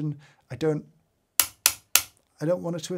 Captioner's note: switch clicking